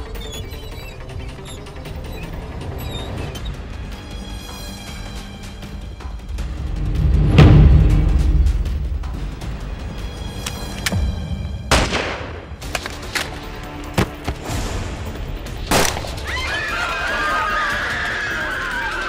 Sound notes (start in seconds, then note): 0.1 lift door closing; 11.7 gun shot; 13.9 thuds on ground; 15.7 gunshot; 16.1 people screaming